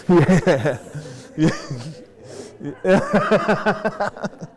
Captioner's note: laughter